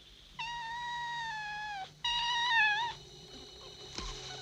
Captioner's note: kitten meowing